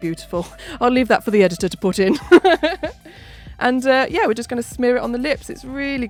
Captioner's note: laughs